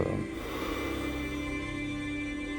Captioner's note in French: Soupir